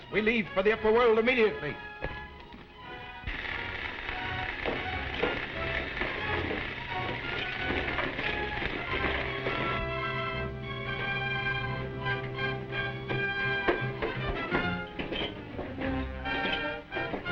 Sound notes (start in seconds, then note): 3.2 electricity sizzling; 5.7 footsteps thudding